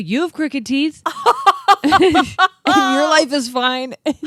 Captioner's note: laughing